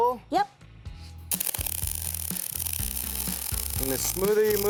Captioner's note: spark sounds